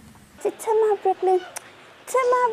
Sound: air kissing

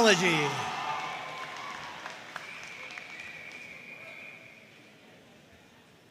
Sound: audience cheering and applauding

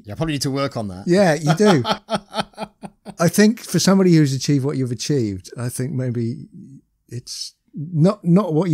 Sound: laughter

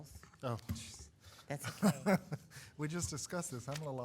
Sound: laughs

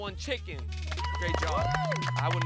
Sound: cheering

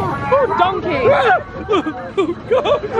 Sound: screams

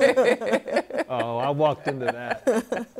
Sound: laughter

